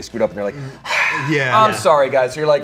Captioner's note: sigh